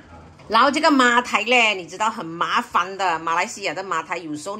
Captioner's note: Cantonese